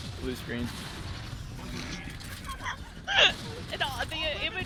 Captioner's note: laughs